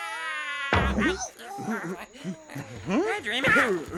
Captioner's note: boom